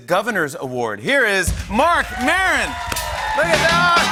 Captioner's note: cheers and applause